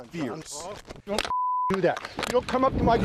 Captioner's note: beep